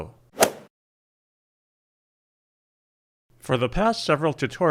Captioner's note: golf swing sound effect